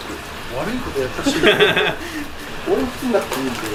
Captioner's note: laughs